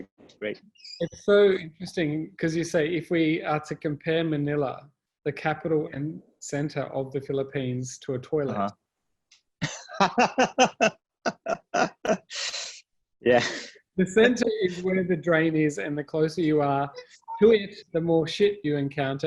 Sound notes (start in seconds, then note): 9.6 both laugh